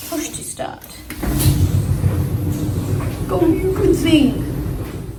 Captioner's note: dryer starts making noise